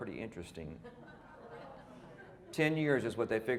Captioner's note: audience laughing